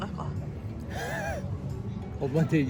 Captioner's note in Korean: 실소